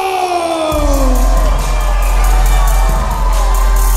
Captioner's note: crowd cheers